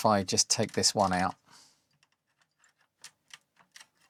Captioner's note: keyboard Clicking